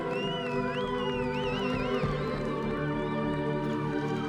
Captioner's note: cheering, whistling